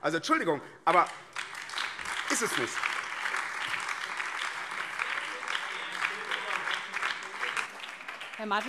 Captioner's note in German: Beifall BÜNDNIS 90/DIE GRÜNEN